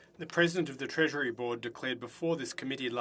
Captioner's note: speaking French